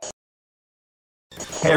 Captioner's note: static